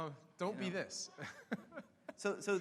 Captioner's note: laughing